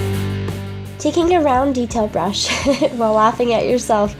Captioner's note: laughs